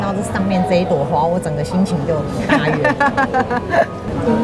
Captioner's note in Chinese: 哈哈哈哈哈